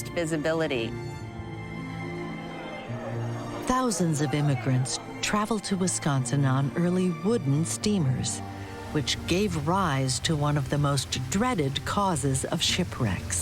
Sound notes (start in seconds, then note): 2.1 crowd murmuring; 13.2 ship horn